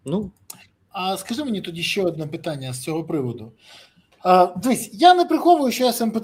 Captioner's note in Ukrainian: сопіння